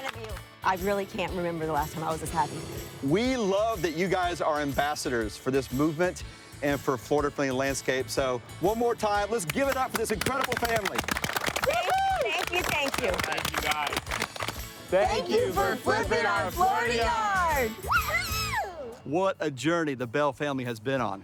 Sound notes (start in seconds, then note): 9.4 applauding